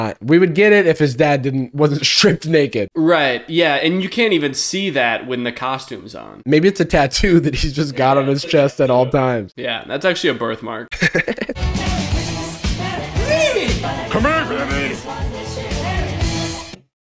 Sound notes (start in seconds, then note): 10.9 laughs